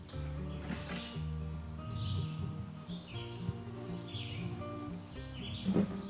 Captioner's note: birds chirping; gentle music